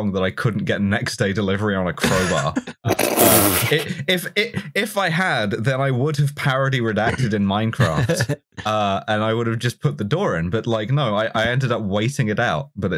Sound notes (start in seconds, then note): 2.0 laughter